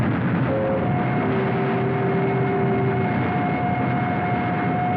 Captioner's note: air Raid Siren Blaring